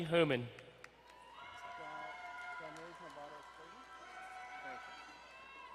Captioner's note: crowd cheering and applauding